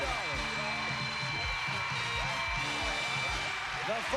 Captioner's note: cheers and applause